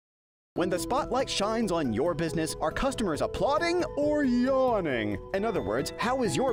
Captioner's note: voiceover